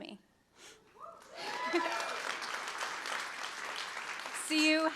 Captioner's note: crowd cheering